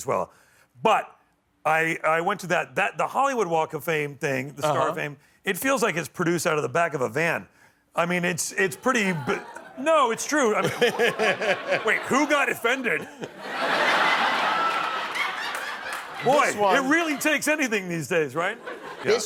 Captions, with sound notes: INVITED. YOU'RE GOOD FRIENDS WITH JASON BATEMAN AS WELL. BUT I WENT TO THAT. THE HOLLYWOOD WALK OF FAME THING IT FEELS LIKE IT'S PRODUCED OUT OF THE BACK OF A VAN. IT'S PRETTY -- NO, IT'S TRUE. WAIT, WHO GOT OFFENDED? [ LAUGHTER ] BOY. IT REALLY TAKES ANYTHING THESE